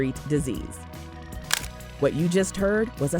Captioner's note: camera click